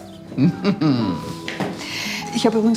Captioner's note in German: Lachen